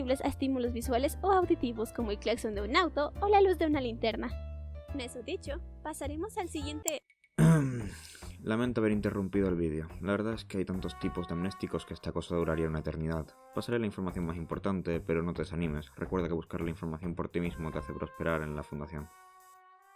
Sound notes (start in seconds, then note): 6.8 click; 7.4 clears his throat